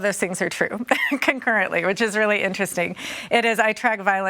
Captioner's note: chuckles